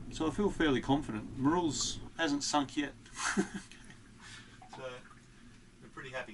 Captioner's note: laughs